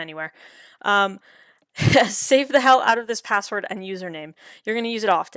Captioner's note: chuckles